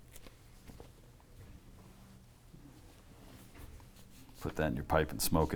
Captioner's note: silence